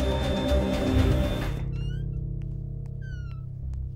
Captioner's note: Door opens